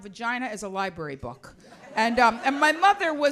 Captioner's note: audience laughs